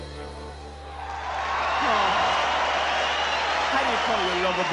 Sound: audience applauds

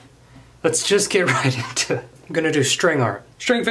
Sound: laughs

